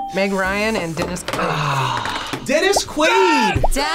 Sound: sighs

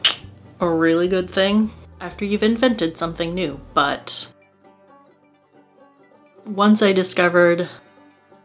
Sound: kiss

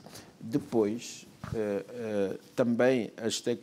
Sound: speaking portuguese

